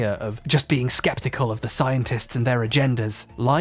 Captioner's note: skeptical